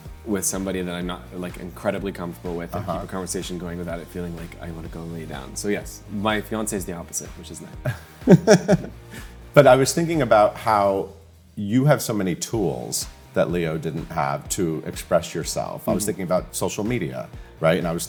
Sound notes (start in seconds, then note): 7.8 chuckles